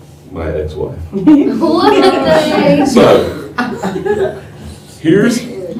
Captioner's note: laughter